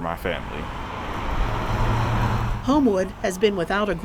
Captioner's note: car engine hums